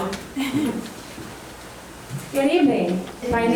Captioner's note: giggling